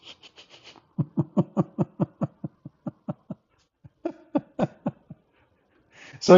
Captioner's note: Ketawa